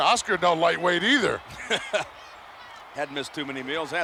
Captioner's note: chuckling